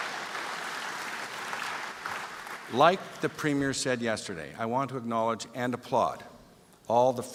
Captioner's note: applause